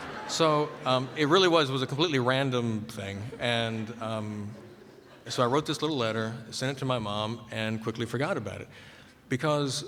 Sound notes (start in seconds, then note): 0.0 laughter